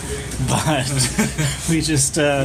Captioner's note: laughing; laughs